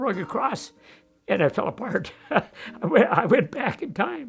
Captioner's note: laughs